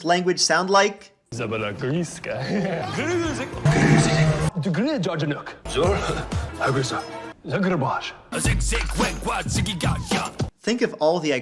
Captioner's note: Clips of Bonzo speaking Zombie